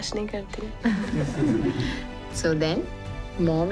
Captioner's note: all giggling